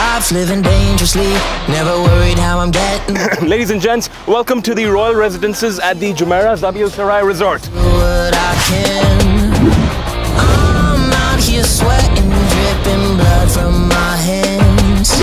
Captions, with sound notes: ......................... *Proceeds to clear throat* Ladies and gents, welcome to the Royal Residences at the Jumeirah Zabeel Saray Resort!